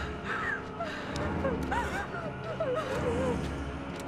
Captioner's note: breathing heavily